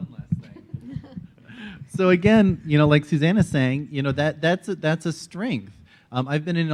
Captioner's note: laughs